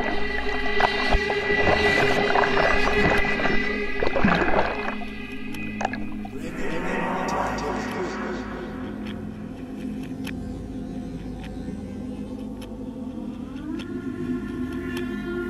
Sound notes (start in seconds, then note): 1.6 water sloshing subsides